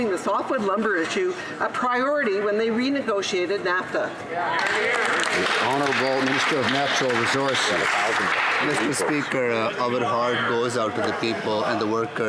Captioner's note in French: voix de l'interprète